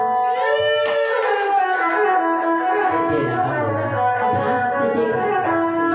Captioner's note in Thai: ปรบมือ